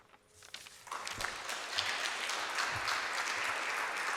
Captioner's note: applause